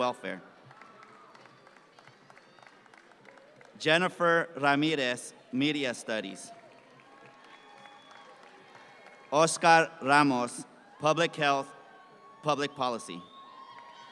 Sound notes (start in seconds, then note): 0.5 audience claps; 6.4 audience claps; 13.9 audience cheer